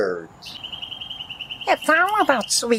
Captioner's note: song Birds Chirping